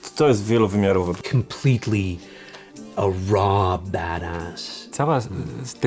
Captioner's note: in English; in Polish